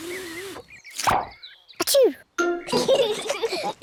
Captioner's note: sneezes; both giggle